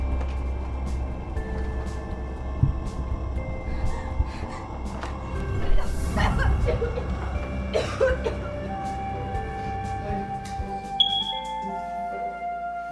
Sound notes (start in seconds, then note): 11.0 beep!